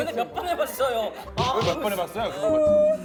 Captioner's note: bickering